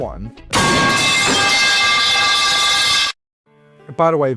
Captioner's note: metal pipe falling sound